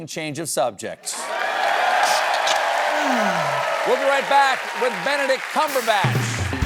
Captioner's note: cheers and applause